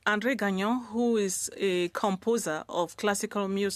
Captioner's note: speaking French